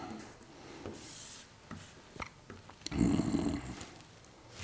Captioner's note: grunting